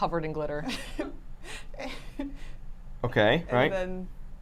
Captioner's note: laughs